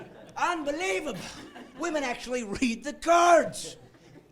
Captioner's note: laughing